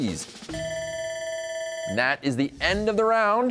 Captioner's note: bell ringing